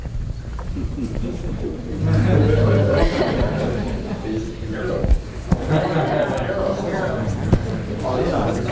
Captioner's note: laughter, inaudible comments